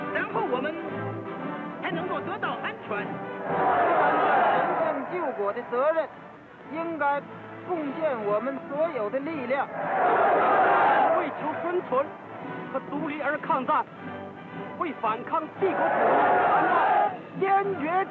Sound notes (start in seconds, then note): 3.3 cheers; 5.4 speaking chinese; 9.7 cheers